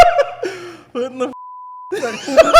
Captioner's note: laughs